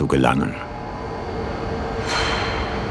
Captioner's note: whirring, metallic sound